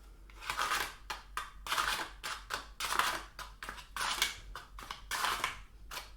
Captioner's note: soft scraping sounds